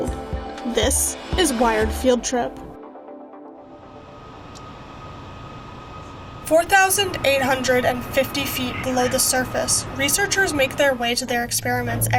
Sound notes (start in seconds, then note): 2.6 uptempo music; 4.4 fan whirring